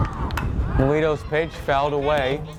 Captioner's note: bat cracks